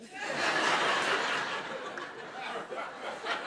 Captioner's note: laughter